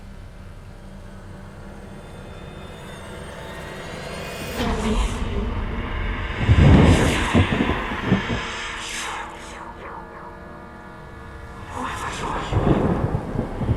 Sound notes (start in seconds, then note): 0.3 soft suspenseful music; 5.0 faint whispering